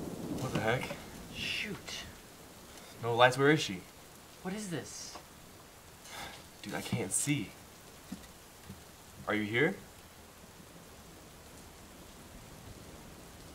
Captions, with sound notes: What the heck? Shoot No lights? Where is she? What is this? Dude! I can't see. Are you here? (silence)